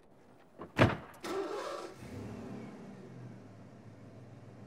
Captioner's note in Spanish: motor arrancando